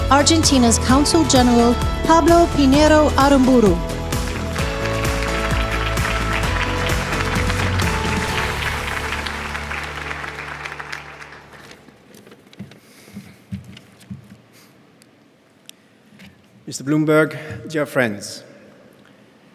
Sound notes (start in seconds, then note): 4.5 audience applauding; 4.5 upbeat music continues